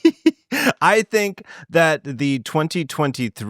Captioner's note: laughing